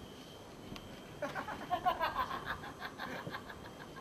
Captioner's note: γέλια